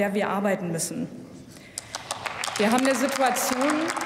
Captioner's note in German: Applaus